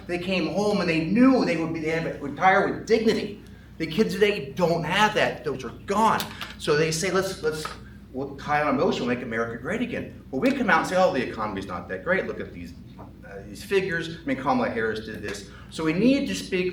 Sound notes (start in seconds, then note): none